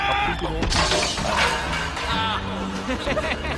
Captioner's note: crash; laughs